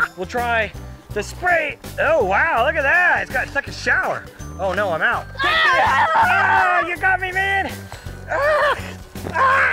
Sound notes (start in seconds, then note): 5.4 screams; 5.5 both yelling